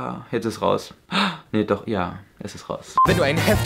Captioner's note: gasps